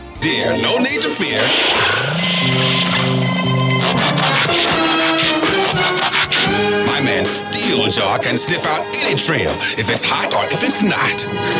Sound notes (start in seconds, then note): 4.4 robot buzzing